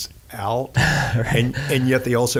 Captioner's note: laughing